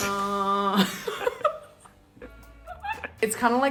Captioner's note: both laugh